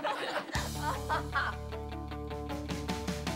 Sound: class laughing

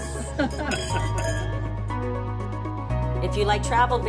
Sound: laughing

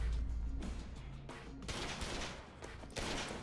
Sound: guns firing

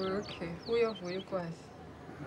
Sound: speaking Swahili

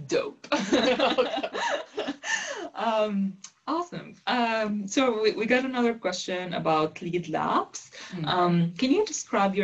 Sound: laugh

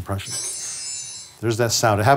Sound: bells ring

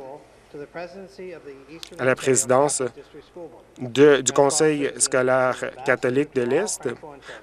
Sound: speaking French

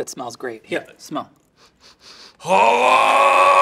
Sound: Cookie Monster sniffing; Cookie Monster yelling

